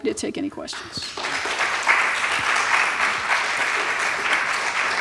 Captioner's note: applause